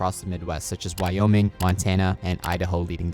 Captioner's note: cursor clicking